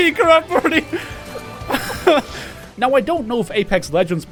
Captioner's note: relieved Laughter